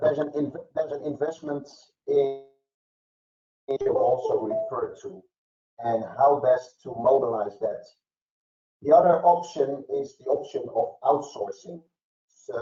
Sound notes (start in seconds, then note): 3.8 mic cracking